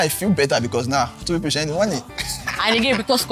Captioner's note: laughs